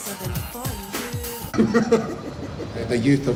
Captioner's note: laughs